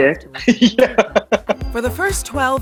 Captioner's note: laughs